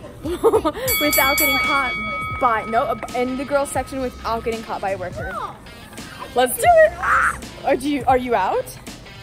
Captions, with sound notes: (bell dings) In the girl's section, without getting caught by a worker. Let's do it! Are you out?